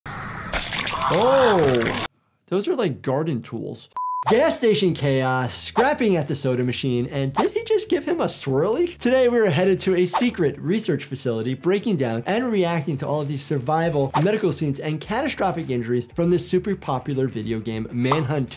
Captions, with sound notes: (blood squelches) - Oh. Those are like garden tools. Gas station chaos, scrapping at the soda machine and did he just give him a swirly? Today, we're headed to a secret research facility, breaking down and reacting to all of these survival medical scenes and catastrophic injuries from this super popular video game, "Manhunt 2".